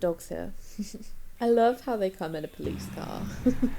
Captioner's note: laughs